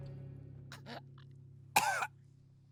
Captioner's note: coughs